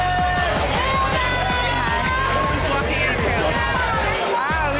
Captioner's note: crowd cheering